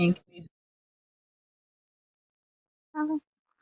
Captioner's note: little mumbles trying to figure it out